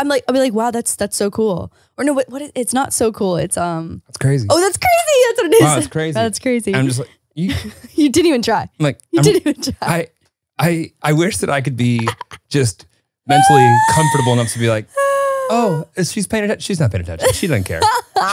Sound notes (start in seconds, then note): 9.2 laughing; 17.2 laughing